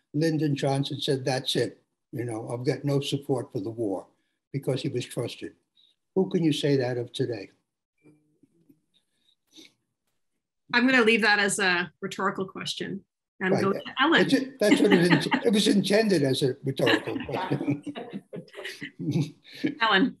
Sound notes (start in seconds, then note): 15.1 laughs; 19.1 laughs